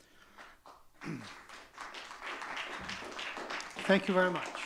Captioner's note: audience clapping